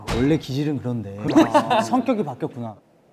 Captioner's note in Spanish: Jajajaja